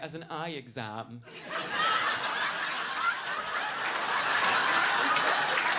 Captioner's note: audience laughing and clapping